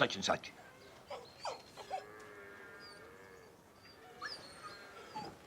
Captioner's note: dog whining